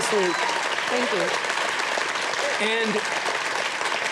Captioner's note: audience applauding